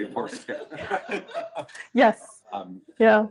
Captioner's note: laughter